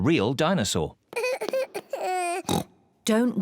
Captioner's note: cries; oinks